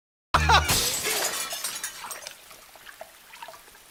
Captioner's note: the window shatters